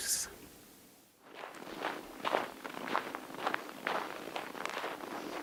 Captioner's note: snow crunching